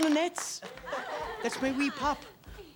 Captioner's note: class laughs